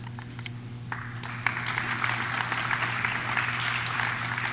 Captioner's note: audience claps